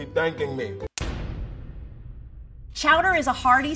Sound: pounding

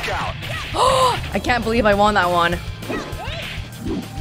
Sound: gasps

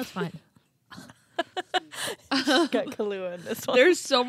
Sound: both laughing

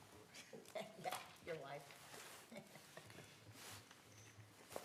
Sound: laughter

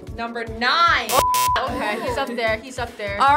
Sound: beep

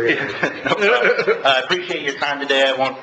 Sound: laughing

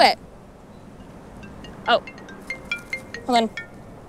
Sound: phone rings

